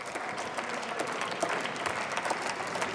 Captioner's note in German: Beifall